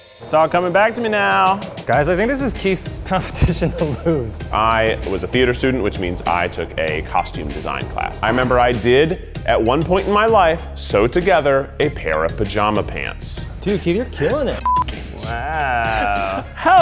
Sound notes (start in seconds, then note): 14.6 beep